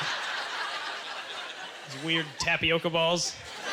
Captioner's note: audience laughter